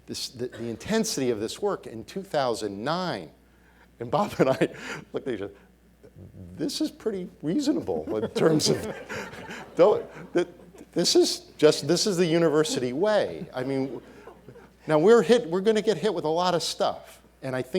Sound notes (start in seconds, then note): 7.8 laughing